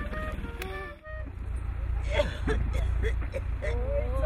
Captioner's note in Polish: kaszle